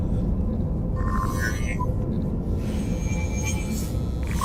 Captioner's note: устройство издает странный звук